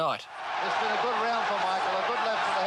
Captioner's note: crowd cheers